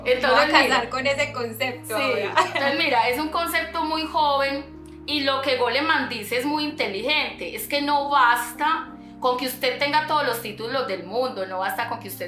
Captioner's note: laughs